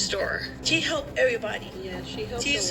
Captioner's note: on TV